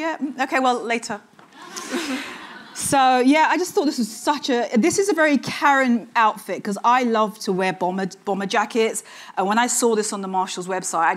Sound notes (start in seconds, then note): 1.5 audience chuckling